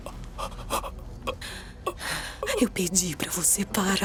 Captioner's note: Neil panting, whimpering